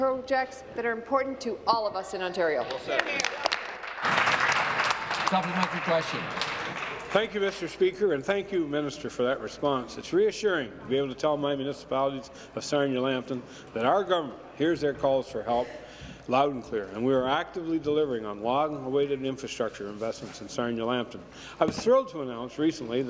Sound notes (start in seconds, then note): 5.8 applause